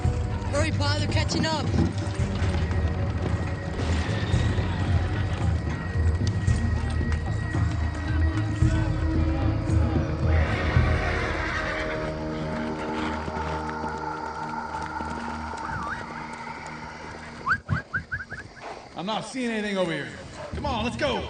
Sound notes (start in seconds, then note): 9.2 horses whinny; 15.3 whistling